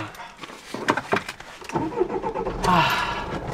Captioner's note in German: Motor startet